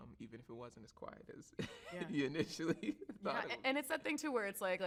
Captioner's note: laughs